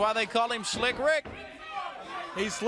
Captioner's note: crowd cheering